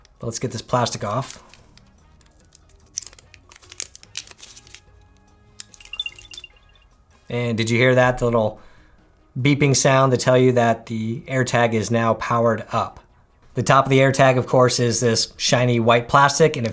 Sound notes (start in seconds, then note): 2.1 plastic crinkling; 5.8 machine beeping